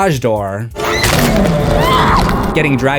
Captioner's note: screams